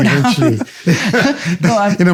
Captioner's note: laughter